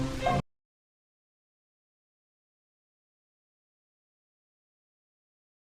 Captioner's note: audio missing